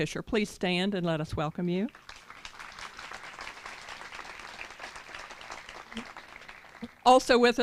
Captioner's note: applause